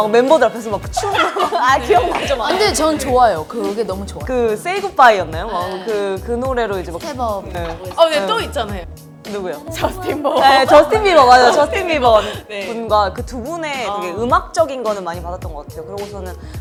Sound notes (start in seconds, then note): 9.8 laughs